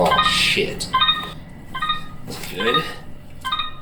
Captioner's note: instrument beeping